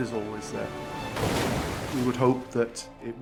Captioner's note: waves crashing; water whooshing